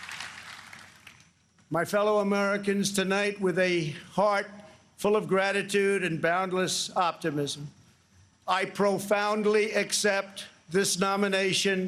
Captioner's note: applause